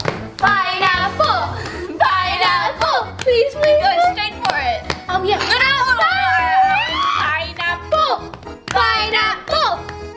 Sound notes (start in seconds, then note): 5.8 shouting